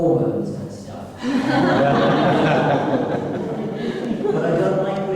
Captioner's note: laughter